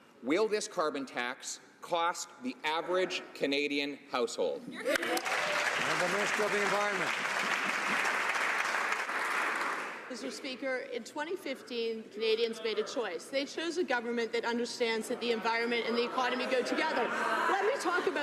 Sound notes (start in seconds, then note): 7.8 some Applause